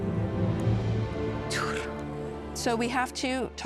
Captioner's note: in Elvish